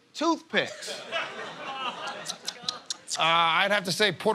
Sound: smacks lips

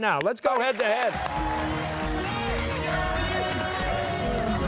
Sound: cheers and applause

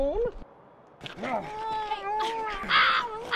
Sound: yowling, grunting, sruggling

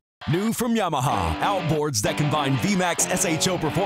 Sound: voiceover

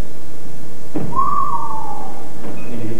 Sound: whistles

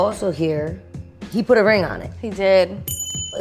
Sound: ding

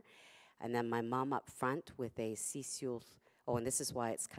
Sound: non-english speech

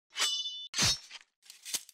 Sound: sword slashing

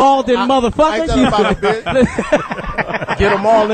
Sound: all laugh

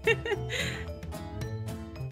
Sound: laughs

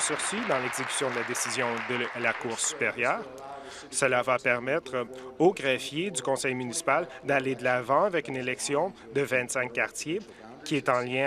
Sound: applause

